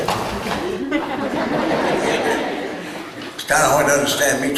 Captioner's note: chuckles